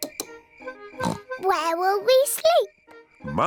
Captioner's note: oinks